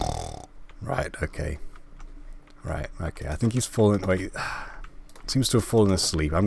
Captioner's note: sigh